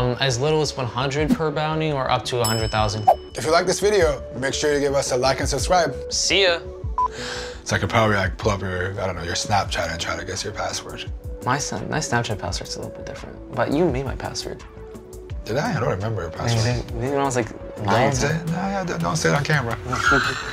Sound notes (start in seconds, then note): 2.4 bell dinging; 7.0 beeping